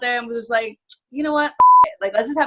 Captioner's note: beep